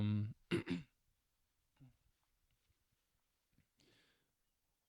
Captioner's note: silence